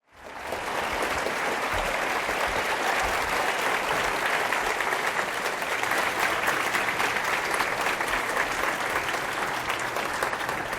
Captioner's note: applause